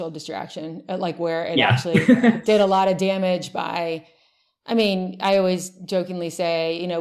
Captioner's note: laughs